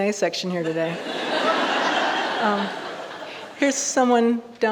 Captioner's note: audience laughing